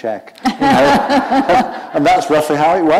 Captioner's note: laughter